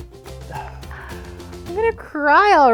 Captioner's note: sighs